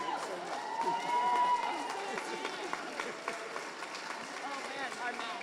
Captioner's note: audience applauding